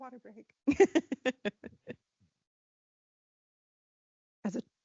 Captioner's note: laughing